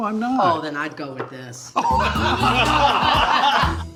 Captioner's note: all laughing